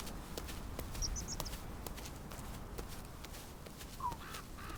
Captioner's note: birds chirping